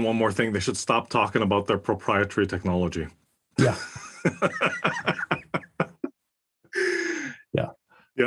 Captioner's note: laugh